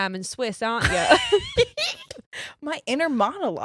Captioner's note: both laughs